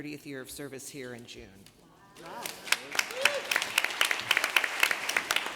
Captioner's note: applause